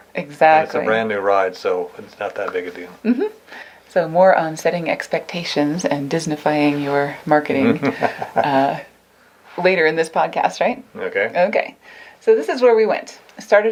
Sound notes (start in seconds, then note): 7.5 laughs